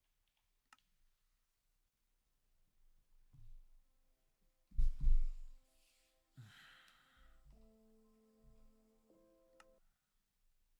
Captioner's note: silence